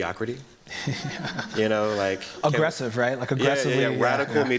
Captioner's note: chuckles